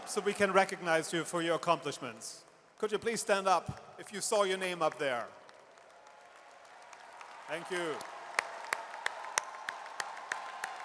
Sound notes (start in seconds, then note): 5.3 audience cheers and applauds